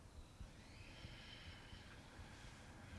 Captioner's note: exhaling softly